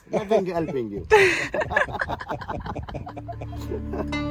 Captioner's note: group laughing